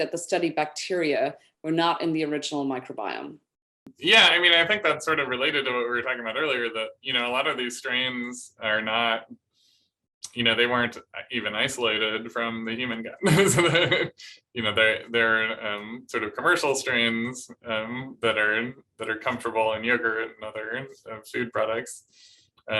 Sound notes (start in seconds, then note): 13.2 laughter